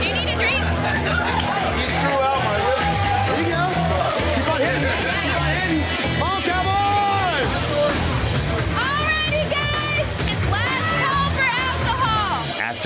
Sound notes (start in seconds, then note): 1.5 crowd chatters; 3.5 rock music